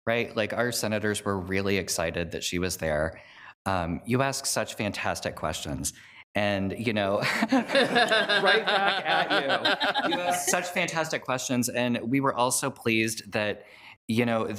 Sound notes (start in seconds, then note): 7.3 group laughs